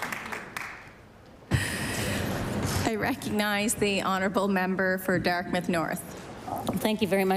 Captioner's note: applause